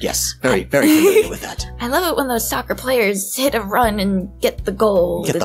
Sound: laughs

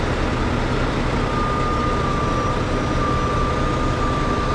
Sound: motor rumbling

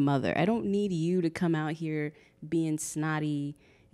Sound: none

